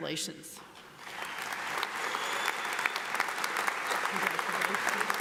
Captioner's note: audience applauds